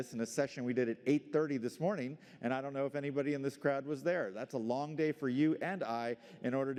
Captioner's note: none